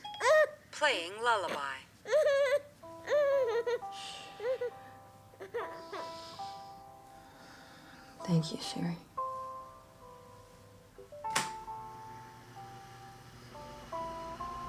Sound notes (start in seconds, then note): 2.1 soft lullaby music; 10.7 fan whirring; 10.7 phone beeping